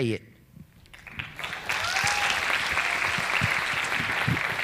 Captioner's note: audience clapping